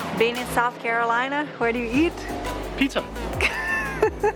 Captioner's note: laughs